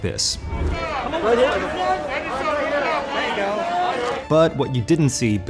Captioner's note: photographers shouting